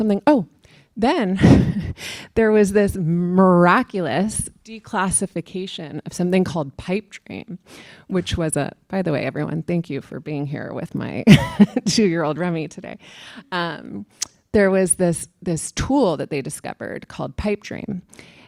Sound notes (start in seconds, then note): 11.2 laughter